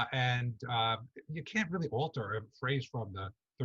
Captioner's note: none